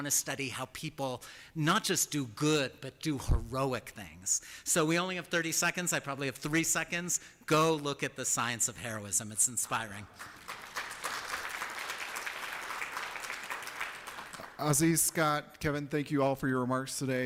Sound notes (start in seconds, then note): 9.9 applause